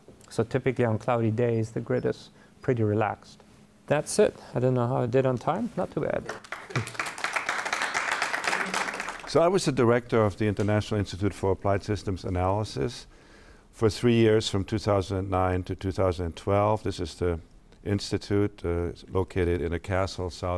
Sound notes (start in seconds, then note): 6.2 audience applauds